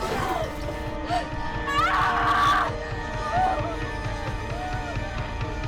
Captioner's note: Belle screaming